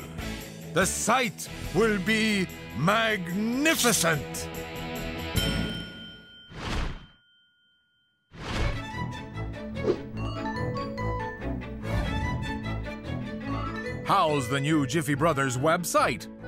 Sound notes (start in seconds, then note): 5.4 bell dings; 9.5 upbeat music